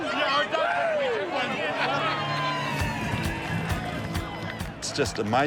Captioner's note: spectators cheer; laughs